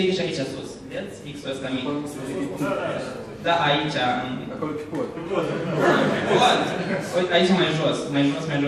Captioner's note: laugher